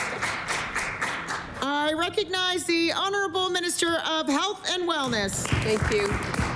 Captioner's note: applause